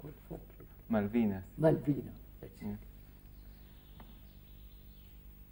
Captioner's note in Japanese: スペイン語で